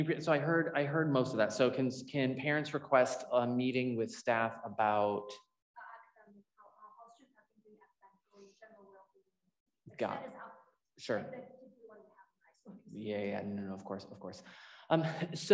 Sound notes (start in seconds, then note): 6.0 voice muffling; 11.5 voice muffling